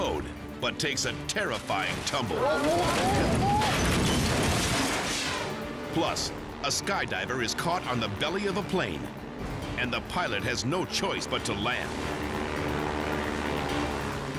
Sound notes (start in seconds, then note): 2.3 observer yelling; 2.5 Jeep crashing; 4.7 dramatic air whoosh; 12.2 plane whining